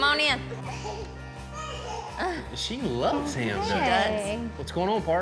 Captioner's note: giggling